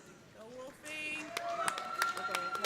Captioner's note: cheers and applause